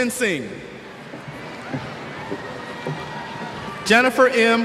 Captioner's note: cheers